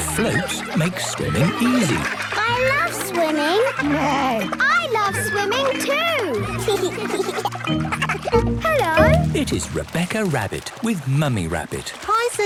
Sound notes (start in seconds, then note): 4.1 neighs; 5.1 giggles